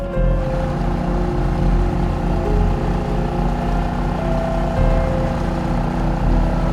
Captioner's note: mysterious music continues; boat whirring